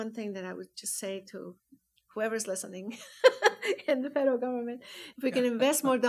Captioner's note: laughs